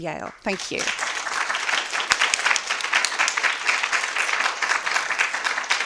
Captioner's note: attendees clapping